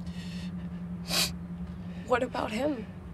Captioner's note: Tyler sniffs